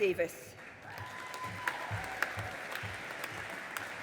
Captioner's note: audience applauding